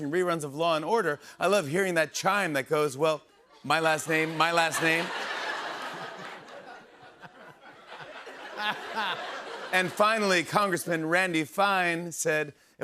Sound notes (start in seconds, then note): 3.8 laughter